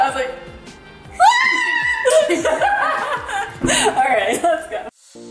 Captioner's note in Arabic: صراخ